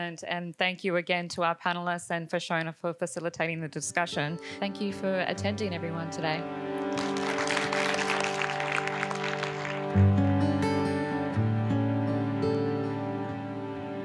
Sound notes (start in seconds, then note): 6.6 gentle music; 6.8 audience applauding; 10.2 lighthearted guitar music